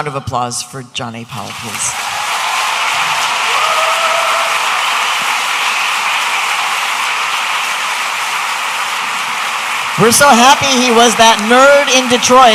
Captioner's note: audience applauding